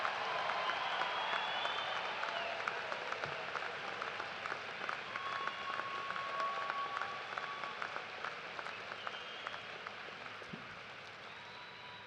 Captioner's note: cheers and applause